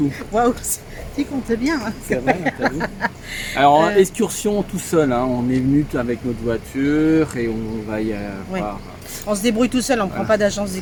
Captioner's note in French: Rires